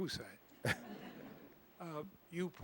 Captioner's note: laughter